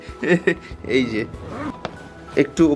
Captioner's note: unziping sound